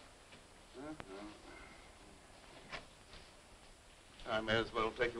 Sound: Mr. Bradford humming

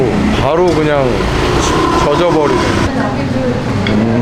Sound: crying

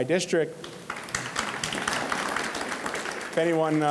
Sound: audience clapping

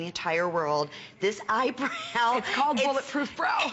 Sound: laughter

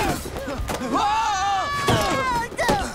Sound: screaming

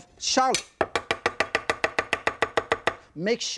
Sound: knife thudding

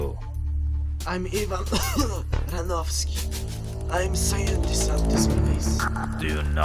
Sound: coughs

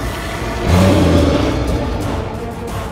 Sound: roars

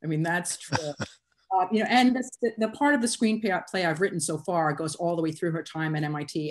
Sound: laughter

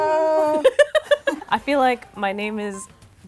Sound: laughs

